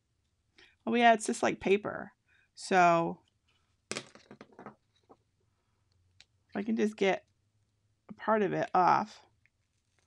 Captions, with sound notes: Oh yeah, it's just like paper. (weeding tool clattering) If I can just get part of it off.